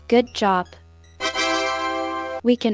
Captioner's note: Roblox celebration noises